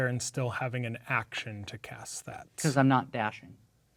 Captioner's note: none